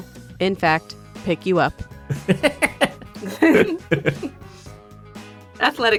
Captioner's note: chuckle